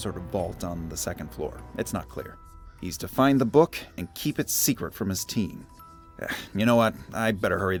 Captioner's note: sighs